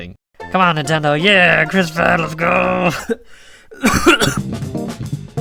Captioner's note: cough